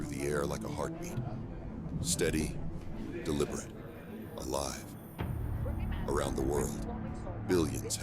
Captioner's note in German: Menschen diskutieren im Hintergrund